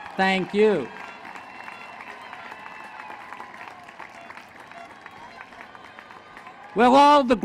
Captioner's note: applause